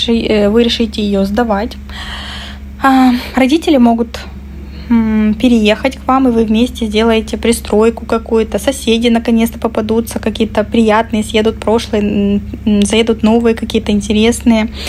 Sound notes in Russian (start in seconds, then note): 1.9 вздыхает